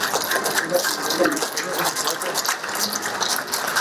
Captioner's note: applause